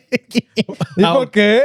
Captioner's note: laugh